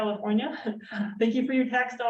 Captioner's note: chuckling